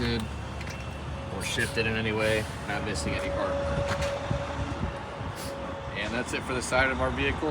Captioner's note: machine whirring